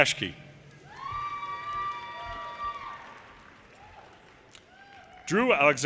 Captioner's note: audience cheers and applause